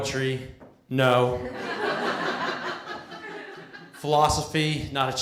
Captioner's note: laughter